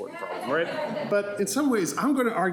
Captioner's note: audience laughs